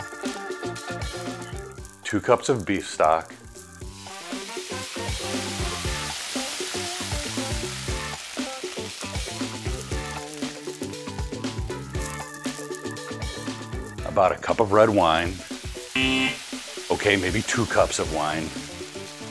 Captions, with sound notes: Two cups of beef stock. (funky music) About a cup of red wine. (buzzer ringing) Okay, maybe two cups of wine.